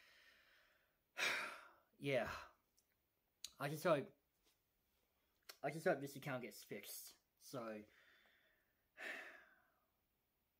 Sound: sighs

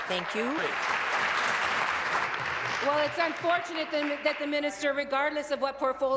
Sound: applause

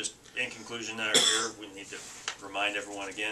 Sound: coughing

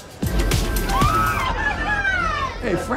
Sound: upbeat music; excited screaming

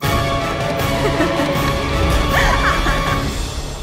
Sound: Helga laughs

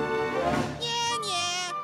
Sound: laughing

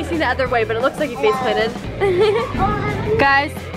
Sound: laughs

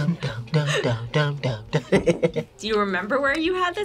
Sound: laughs

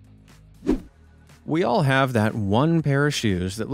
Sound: swoosh

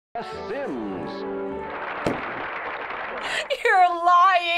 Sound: voice-over; applause

